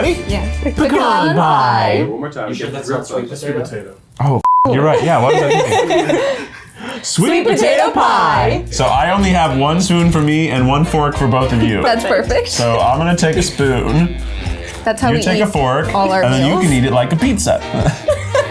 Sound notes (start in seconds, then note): 4.4 beep; 4.8 all laugh